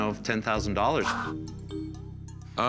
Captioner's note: swish